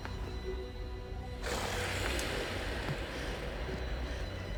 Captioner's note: ethereal growling